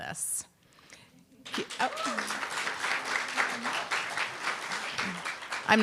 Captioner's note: applause, cheer